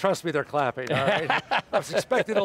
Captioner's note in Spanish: risas